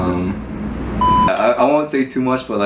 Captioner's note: TV beep